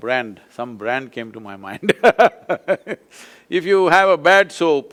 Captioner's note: laughs